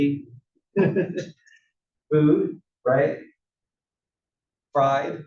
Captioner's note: laugh